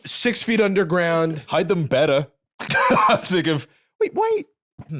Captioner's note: laughs